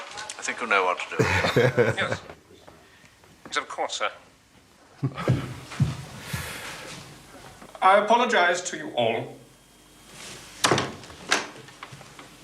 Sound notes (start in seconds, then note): 1.1 laughing; 10.6 door opening